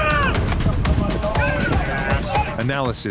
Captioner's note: gunshots firing